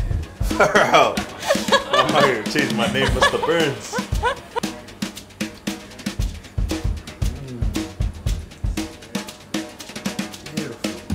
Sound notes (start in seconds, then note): 1.3 laughing